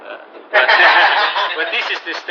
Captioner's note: laughter